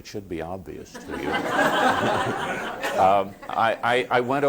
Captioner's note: laughter